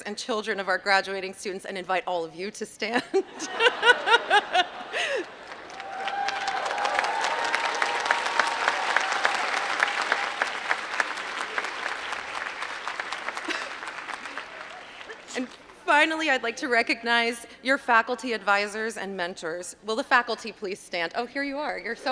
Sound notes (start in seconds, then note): 3.1 laugh; 6.9 applause